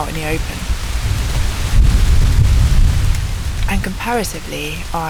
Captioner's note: thunder